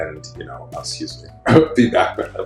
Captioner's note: choking up